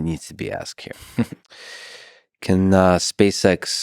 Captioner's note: Tim chuckles